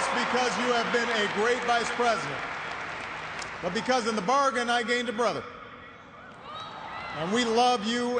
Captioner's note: cheers and applause